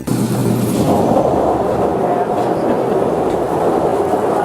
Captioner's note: bailer whirring